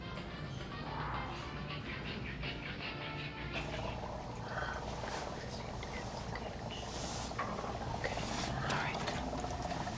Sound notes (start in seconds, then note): 3.6 liquid Bubbling